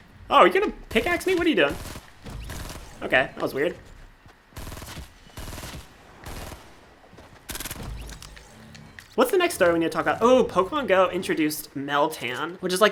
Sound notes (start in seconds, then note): 1.6 gunfire; 4.5 gunfire